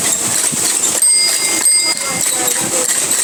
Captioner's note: bike wheels squeaking; bike bell dings